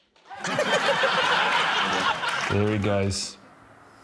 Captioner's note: laughter